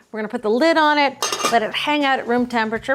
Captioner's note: metal clanging